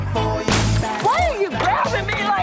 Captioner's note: singing; smash